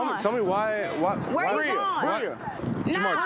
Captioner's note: overlapping chatter and fighting